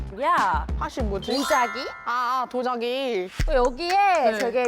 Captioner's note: auto-translation sound effect